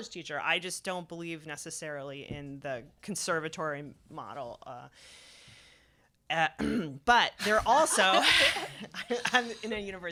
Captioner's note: laugher